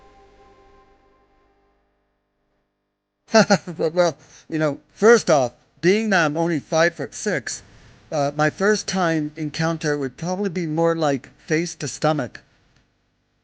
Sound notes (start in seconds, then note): 0.0 energetic inspirational music; 3.4 laughs